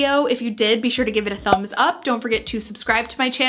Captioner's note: popping